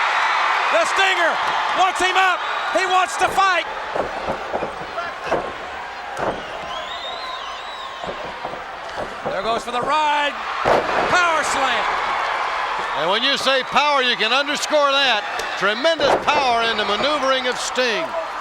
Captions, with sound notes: The Stinger wants him up, he wants to fight. (crowd shout) There goes for the ride. Power slam. And when you say power, you can underscore that. Tremendous power in the maneuvering of Sting.